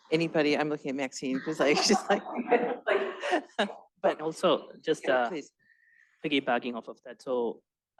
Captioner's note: laughter